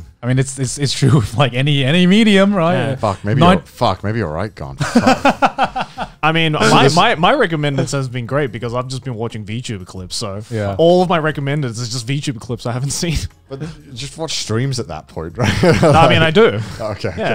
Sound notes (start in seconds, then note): 4.8 laughing